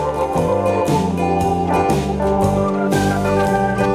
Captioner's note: argument